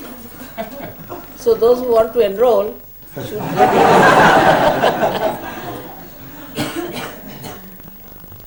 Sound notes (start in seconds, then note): 3.2 laughter